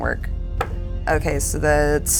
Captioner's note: die thuds